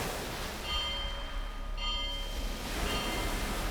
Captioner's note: bell